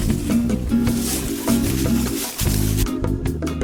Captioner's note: laughing; leaves rustling; gentle music